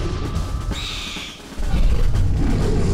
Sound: mystical chimes; owl screeching; growling; intense drumming

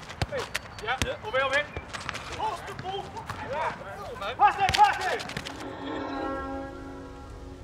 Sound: boys shouting while playing ball

